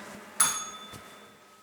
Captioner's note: bell rings